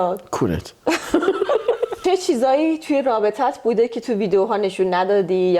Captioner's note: laughs